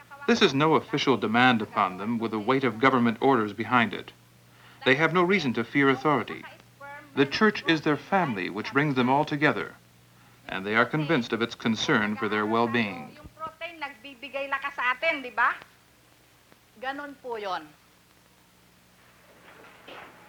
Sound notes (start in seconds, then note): 13.3 speaking Filipino